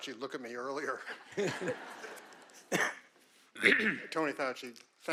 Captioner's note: audience laughing